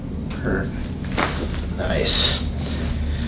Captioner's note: loud cracking